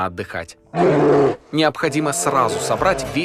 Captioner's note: the roar of a bear